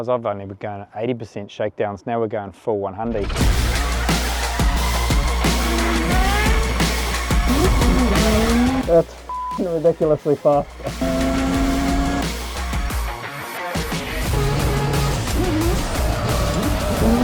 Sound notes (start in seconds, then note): 9.2 beep